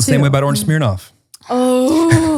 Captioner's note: groans